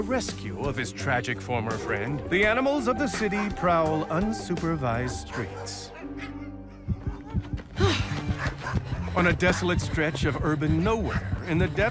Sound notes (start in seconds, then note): 4.7 dogs whimpering; 7.6 sighs